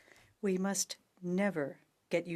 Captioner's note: speaking French